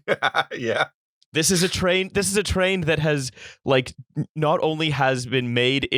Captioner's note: laughter